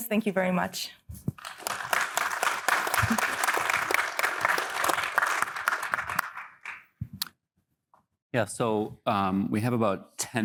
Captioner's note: applause